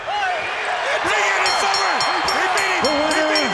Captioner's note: bell rings